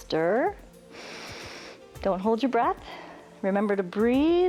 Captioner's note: inhales